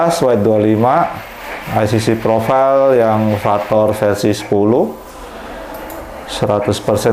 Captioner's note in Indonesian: suara mesin printer